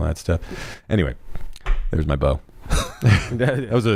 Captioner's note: laughs